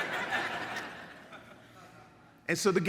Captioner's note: audience laughs